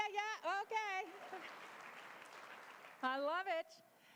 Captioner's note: applause